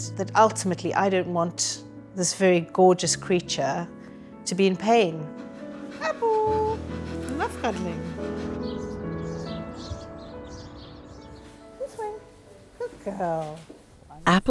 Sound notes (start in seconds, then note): 8.9 birds chirping; 8.9 calm music